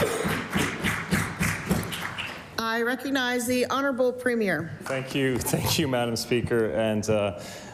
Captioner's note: applause